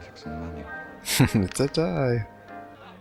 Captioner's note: chuckling